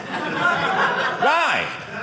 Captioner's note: audience laughing